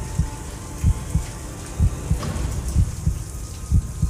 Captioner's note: tense music; water rushing